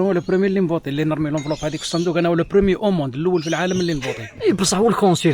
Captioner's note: laughs